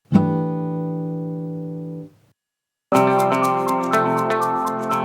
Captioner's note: chime sounds; upbeat music